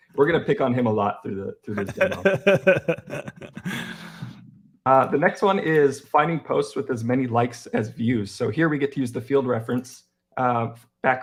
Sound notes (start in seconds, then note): 1.7 laughing